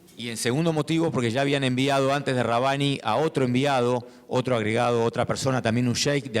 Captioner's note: speaking in foreign language